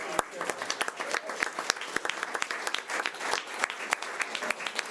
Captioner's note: audience applause